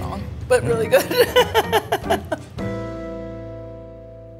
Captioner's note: laughing